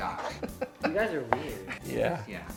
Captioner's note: laughs